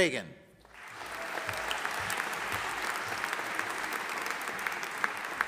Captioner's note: audience applauding